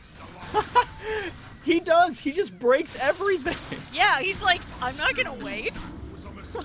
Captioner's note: laughs